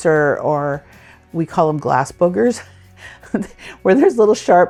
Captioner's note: laughs